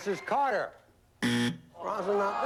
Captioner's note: buzzer